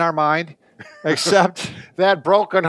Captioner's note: both chuckle